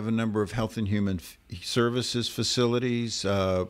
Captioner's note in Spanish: Hablando ingl\s